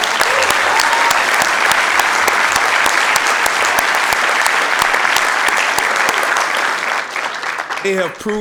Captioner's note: applause